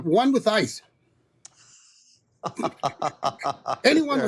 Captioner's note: laughter